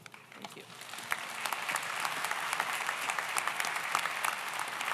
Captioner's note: audience applauds